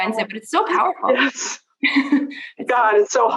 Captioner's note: laughs